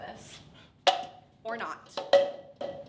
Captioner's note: plastic cup crashing sound